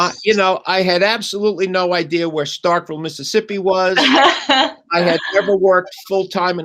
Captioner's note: laughter